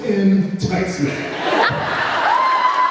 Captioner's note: laughs, cheers